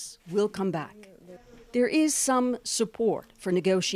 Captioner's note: speaking Foreign Language